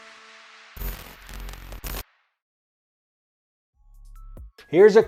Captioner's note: upbeat music fades; logo buzzing; gentle upbeat music